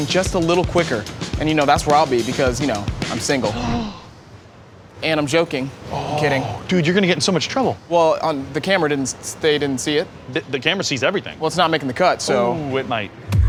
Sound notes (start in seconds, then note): 3.5 gasps